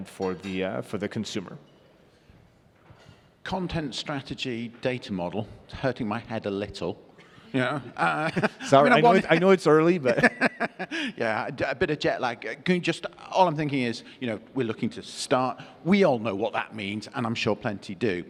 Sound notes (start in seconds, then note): 7.6 chuckles; 10.0 laughs